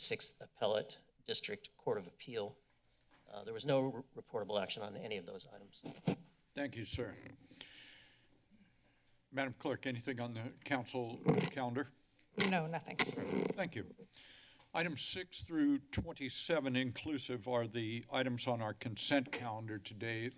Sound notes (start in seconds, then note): 6.9 mic noise; 7.1 inhales; 11.1 mic noise; 12.4 mic rustling